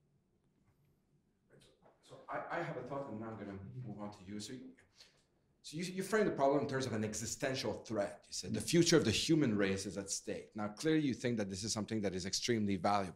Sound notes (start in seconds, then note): 2.6 voiceover